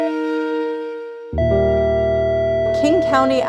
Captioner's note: cardiograph beeps; cardiograph flatline